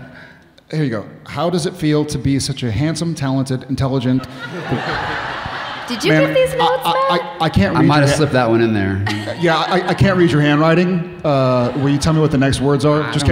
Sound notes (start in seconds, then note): 4.1 audience laughing